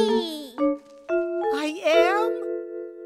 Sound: none

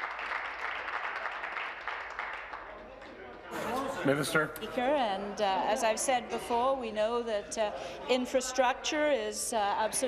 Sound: applause

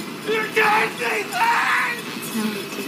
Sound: In Lavinia's voice; Multiple distorted voices of the Gardner Family

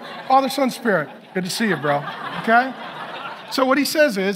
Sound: congregation laughing

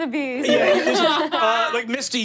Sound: laughing

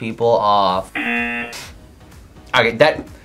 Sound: buzzer rings

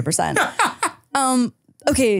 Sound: laughing

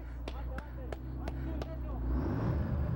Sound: claping

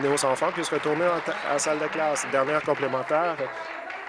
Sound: applause

